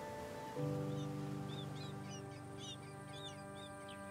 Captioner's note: birds chirp